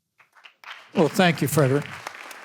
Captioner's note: audience applause